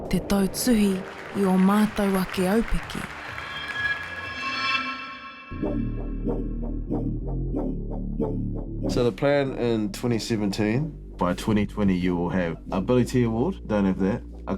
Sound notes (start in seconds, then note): 2.7 audience applauds; 5.6 upbeat music